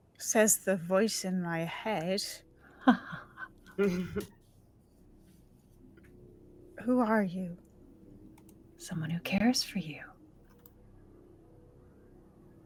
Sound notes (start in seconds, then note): 3.7 chuckles menacingly